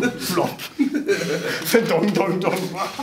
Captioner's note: laughing